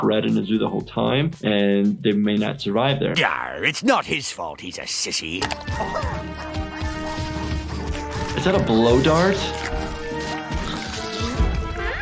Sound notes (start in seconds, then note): 5.9 Petunia groaning; 9.9 Petunia licking